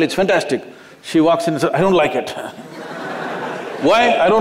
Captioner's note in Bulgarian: Смях